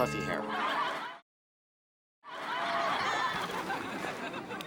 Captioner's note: audience laughs